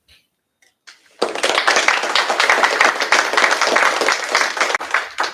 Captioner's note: applause